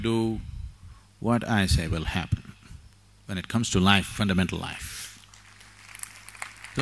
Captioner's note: applause; 掌聲